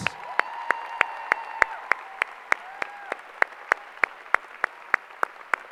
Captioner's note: applause